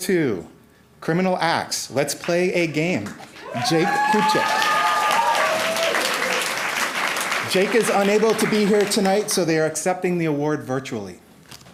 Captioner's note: applause